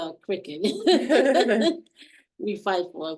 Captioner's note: laughing